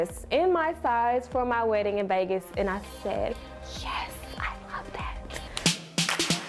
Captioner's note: whispering